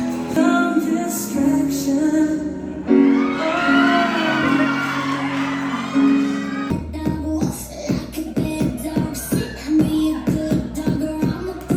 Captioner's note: applause